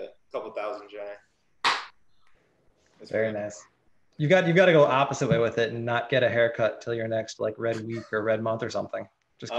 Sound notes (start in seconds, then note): 1.6 claps hands